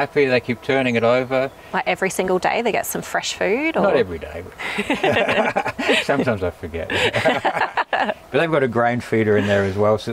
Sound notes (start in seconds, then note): 4.6 laughing